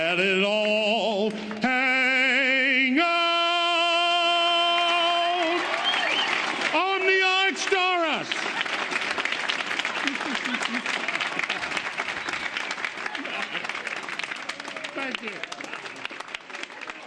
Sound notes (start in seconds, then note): 5.0 applause